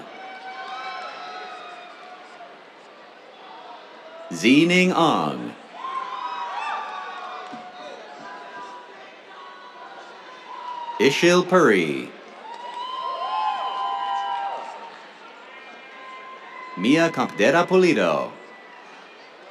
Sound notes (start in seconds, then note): 0.1 cheers, applause; 5.5 cheers; 12.3 cheers, applause; 17.6 cheers